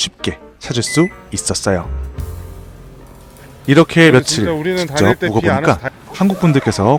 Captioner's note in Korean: 웃음